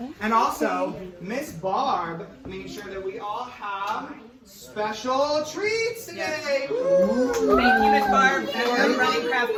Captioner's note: clapping